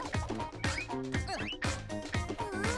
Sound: upbeat music; grunting

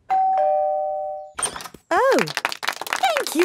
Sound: doorbell ringing; crowd applauding

